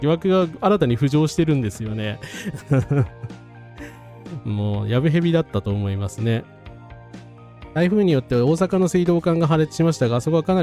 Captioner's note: laughs